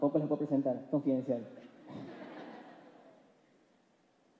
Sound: laughs

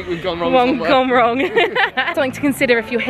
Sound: laughs

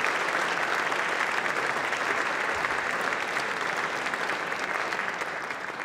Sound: applause

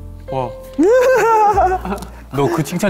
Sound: Spongebob laughter

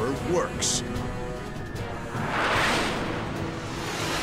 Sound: jet engine noises

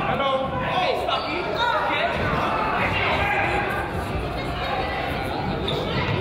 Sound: crowd yells; coach yells

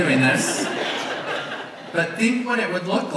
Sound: audience laughs

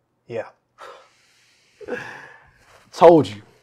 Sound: Sam laughing

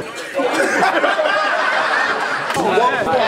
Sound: laughing

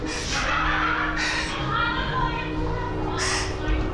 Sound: muffled laughing

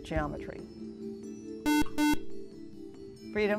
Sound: buzzer

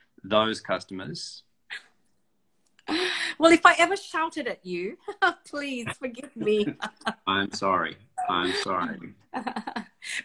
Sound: laughs

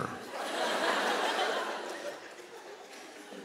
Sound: laughter

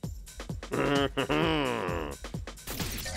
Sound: chuckles

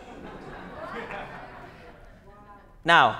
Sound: laughter

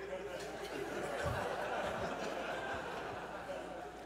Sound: audience chuckles

